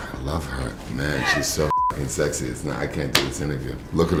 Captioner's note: beep